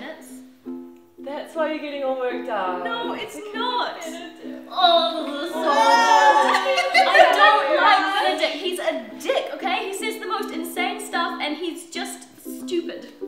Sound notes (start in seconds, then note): 3.9 makes noises of disgust; 4.4 others laugh